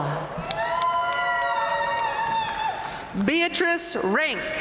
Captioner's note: audience cheering and applauding